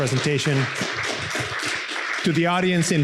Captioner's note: audience applauding